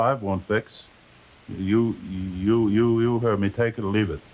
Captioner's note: driver stammering